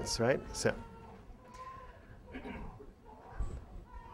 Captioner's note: child cries